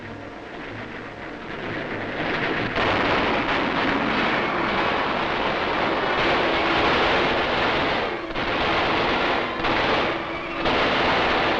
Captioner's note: gunshots and explosions